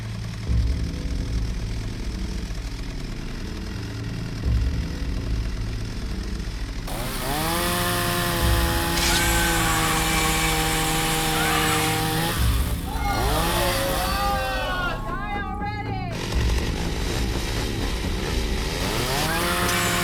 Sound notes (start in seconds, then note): 0.3 chainsaw whirs; 0.3 ominous music; 6.8 chainsaw revs; 7.2 Abby screams; 13.3 crowd shouts; 16.8 chainsaw revs; 16.8 dramatic music; 19.8 Abby shouts; 19.8 dramatic music